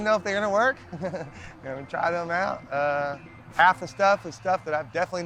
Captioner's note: laughs